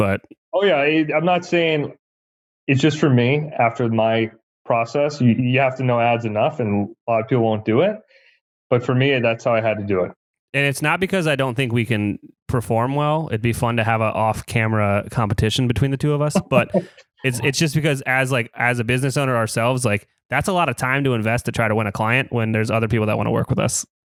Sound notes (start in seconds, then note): 16.2 laughs